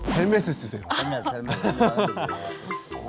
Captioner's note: laughs